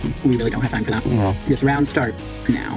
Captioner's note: disappointed sightseer noises